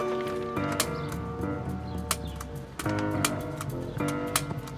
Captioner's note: papers rustle; tense music; staplers snap